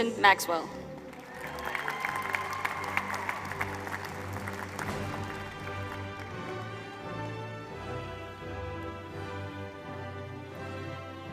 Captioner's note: applause